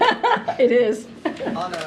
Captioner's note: laughs